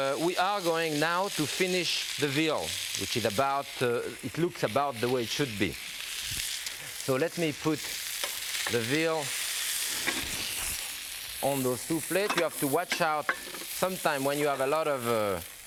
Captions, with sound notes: We are going now to finish the veal, which is about the... It looks about the way it should be. So let me put the veal (fire crackling) on those two plates. You have to watch out sometime when you have a lot of...